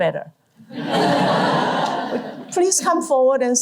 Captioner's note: laughter